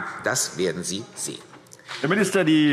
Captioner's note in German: Beifall CDU und BÜNDNIS 90/DIE GRÜNEN